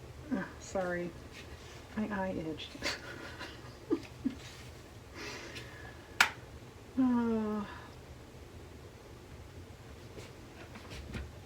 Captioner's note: laughs